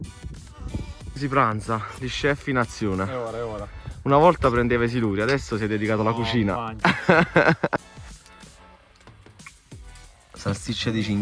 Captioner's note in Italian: Risate